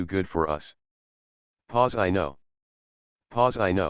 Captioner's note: pause